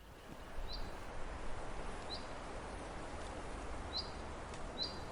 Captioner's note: birds chirping